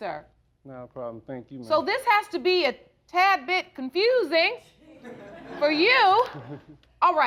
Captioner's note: audience chuckling